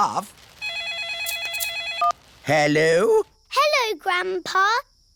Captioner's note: phone rings